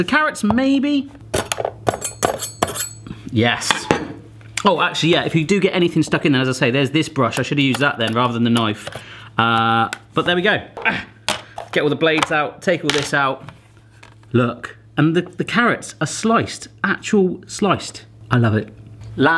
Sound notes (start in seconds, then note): 2.0 metal banging and slicing